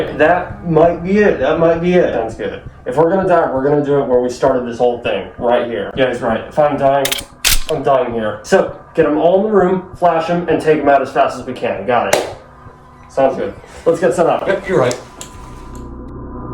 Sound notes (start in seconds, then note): 12.1 claps